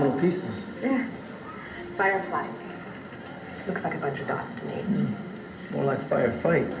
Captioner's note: laughs